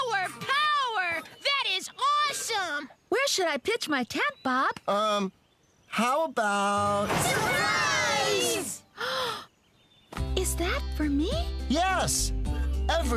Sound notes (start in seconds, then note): 9.0 gasp!